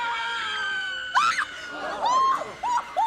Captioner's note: screams